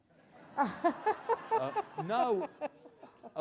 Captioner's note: Justice Sotomajor and audience laugh